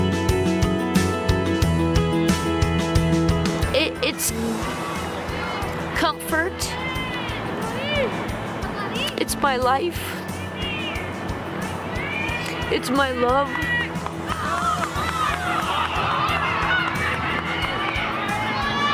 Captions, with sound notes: - It's comfort. It's my life. It's my love. (crowd cheering)